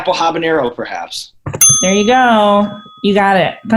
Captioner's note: ding